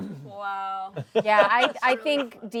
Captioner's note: laughs